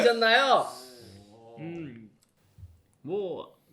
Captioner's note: silence